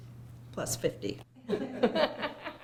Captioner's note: laughter